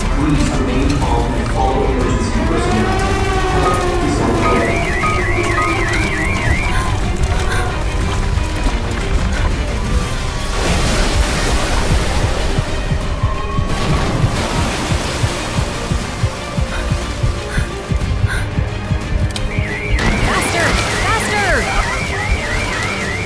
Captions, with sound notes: please remain calm and all areas in this room please stay here [sirens and crying blend into the music] [devastation roaring] [quick, tense breathing] Faster, faster.